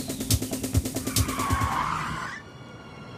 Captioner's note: tires squealing